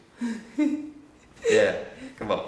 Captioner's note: chuckles